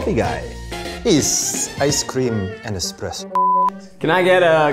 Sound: with Italian accent

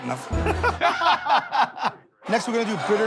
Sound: laughter

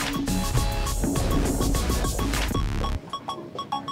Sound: upbeat music; whooshing

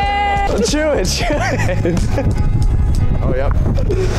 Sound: music and nat sound up full; music under; laughing

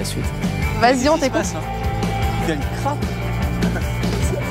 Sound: they laugh

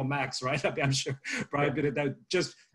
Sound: chuckles

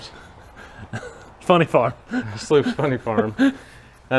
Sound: laughs

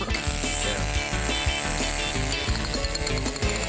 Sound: chisel vibrating

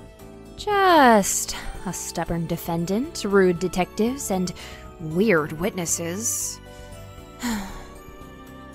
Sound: sigh

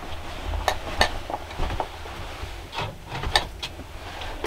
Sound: basket clattering; jars clinking

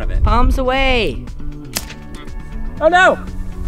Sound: clicking

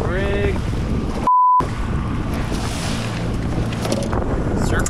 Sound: beep

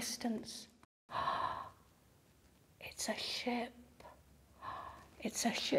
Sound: gasps

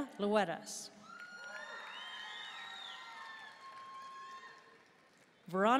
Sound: audience cheering and applauding

